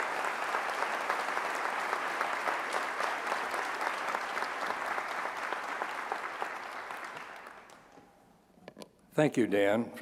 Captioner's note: applause